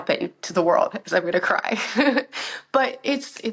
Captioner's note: laughs